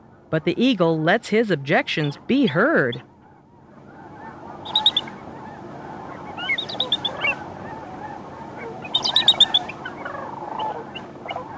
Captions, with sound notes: But the eagle lets his objections be heard. (eagle chirping)